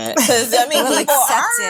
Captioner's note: laughing